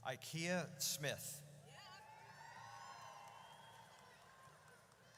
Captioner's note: audience cheers